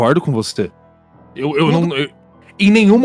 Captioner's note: Luciano stutters